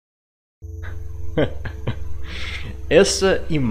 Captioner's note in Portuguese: risadas